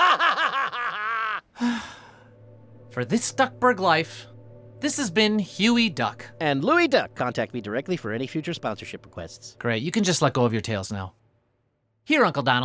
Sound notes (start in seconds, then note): 0.0 laughing; 1.5 sighs